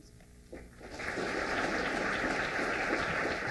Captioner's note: applause